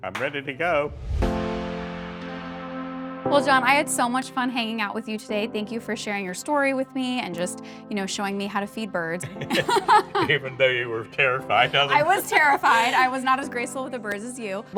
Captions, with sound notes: - I'm ready to go. - Well, John, I had so much fun hanging out with you today. Thank you for sharing your story with me, and just, you know, showing me how to feed birds.(laughing) - Even though you were terrified of 'em. - I was terrified, I was not as graceful with the birds as you.